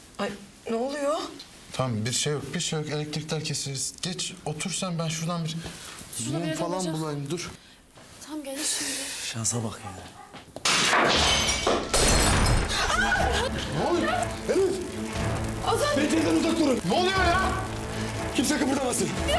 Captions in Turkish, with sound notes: Ay, ne oluyor? Tamam, bir şey yok. Elektrikler kesildi. Geç otur sen, ben şuradan bir mum falan bulayım. Tamam gelir şimdi. Şansa bak. [ CAM KIRILMA SESİ ] ( ÇIĞLIK SESİ ) Ne oluyor? Elif! Azat! Pencereden uzak durun! Ne oluyor ya? Kimse kımıldamasın!